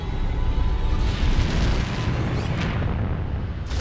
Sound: deep rumble

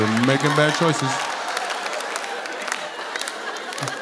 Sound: laughter

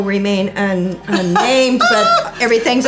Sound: laughing

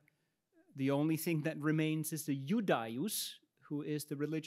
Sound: speaks in Latin

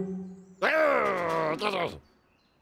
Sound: growls

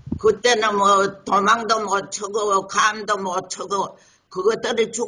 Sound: speaks in foreign language

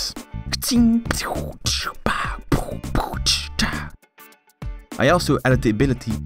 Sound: punching

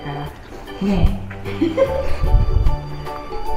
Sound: laughs

